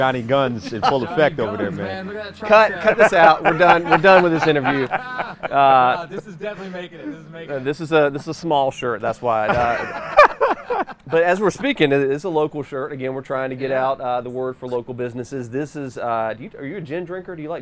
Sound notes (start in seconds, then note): 4.4 everyone laughs; 9.5 everyone laughs